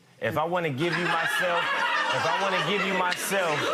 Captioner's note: audience laughter